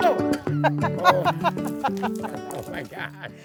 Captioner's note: laughing